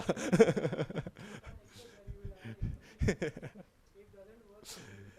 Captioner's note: laughing